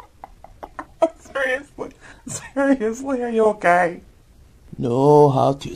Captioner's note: tries to stop laughing